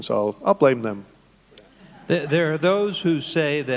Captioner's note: audience laughing